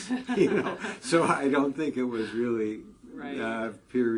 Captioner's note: laugh